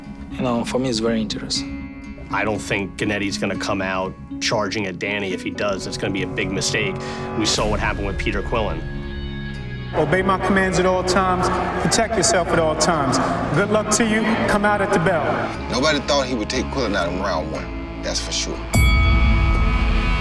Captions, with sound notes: You know, for me it's very interesting. I don't think Gennady's gonna come out charging at Danny. If he does, that's gonna be a big mistake. We saw what happened with Peter Quilliin. Obey my commands at all times, protect yourself at all times. Good luck to you, you can come out here together. Nobody thought he would take Quillin in round one. -That's for sure. -(BELL RINGS)